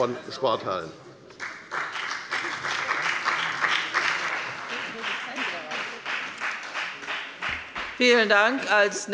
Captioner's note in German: Beifall bei der FDP